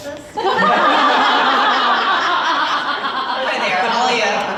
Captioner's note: audience laughs